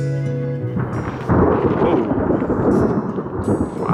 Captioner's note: thunder cracks loudly